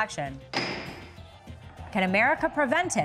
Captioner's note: gavel bangs